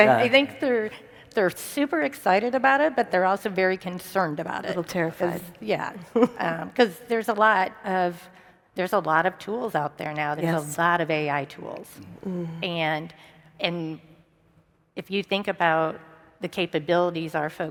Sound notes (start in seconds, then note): 6.0 laughs